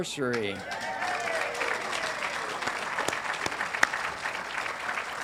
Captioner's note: audience applauding and cheering